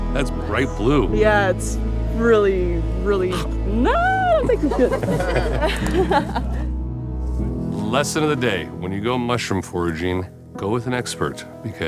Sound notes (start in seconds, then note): 4.2 everyone laughing